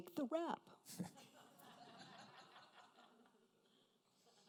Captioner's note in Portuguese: risos da plateia